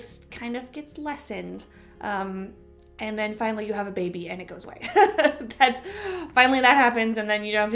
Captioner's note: chuckle